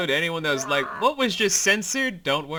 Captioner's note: frustrated screaming